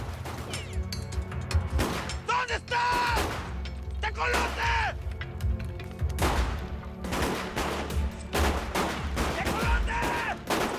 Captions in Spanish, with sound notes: - !TECOLOTE, ------ ----, ¿DONDE ESTAS?! !TECOLOTE! [Disparos] !TECOLOTE!